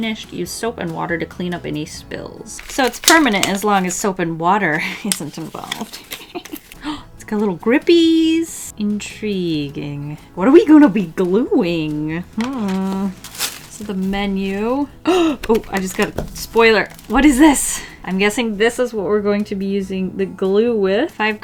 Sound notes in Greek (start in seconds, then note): 5.9 Γέλια; 14.9 κοφτή ανάσα